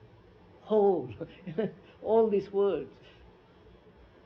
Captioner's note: laughs